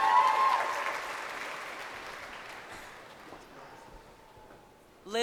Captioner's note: graduates cheering